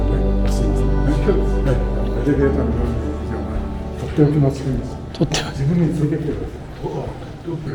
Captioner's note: laugh